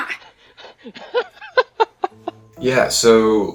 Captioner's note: laughing